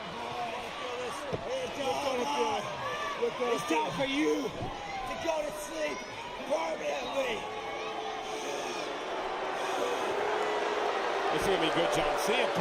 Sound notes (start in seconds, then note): 7.2 crowd boos